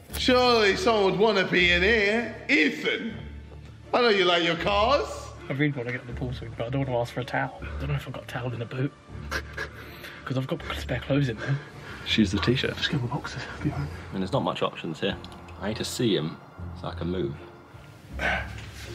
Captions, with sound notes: Surely someone would want to be in here. Ethan! I know you like your cars. - I really want to get in the pool, but I don't want to ask for a towel. I don't know if a got a towel in the boot. (snickers) Because I've got spare clothes in there. - Just use the T-shirt. - I mean there's not much options here. I need see him so I can move.